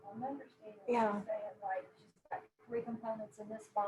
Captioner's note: murmurs